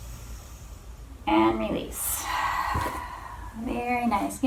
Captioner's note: exhales